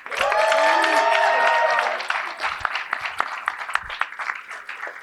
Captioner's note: cheering and applause